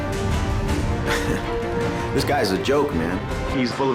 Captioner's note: scoffs